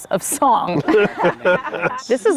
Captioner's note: group laughs